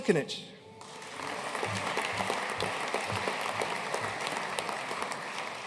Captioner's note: audience applauding